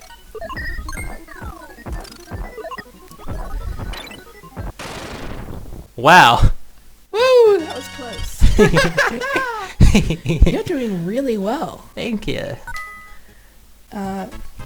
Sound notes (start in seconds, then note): 8.4 both laugh